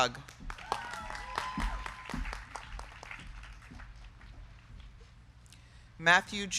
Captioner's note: crowd clapping; crowd cheering